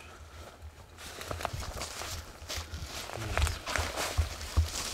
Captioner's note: leaves crunching